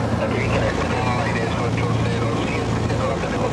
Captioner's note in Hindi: रेडियो स्पैनिश बोल रहा है